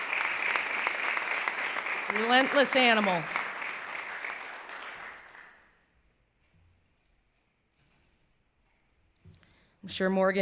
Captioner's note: clapping